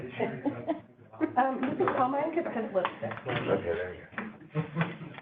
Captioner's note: laughter and cross-talking